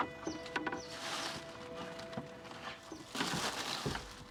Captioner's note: bag rustles